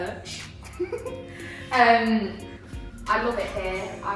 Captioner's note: laughs